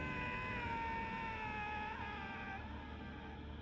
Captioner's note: yelling